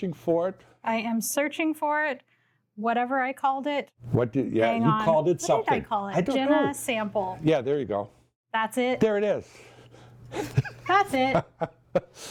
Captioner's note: laughs